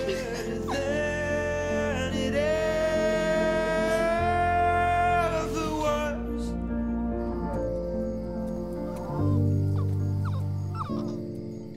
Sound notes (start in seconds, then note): 7.3 insects chirping; 10.7 dog whines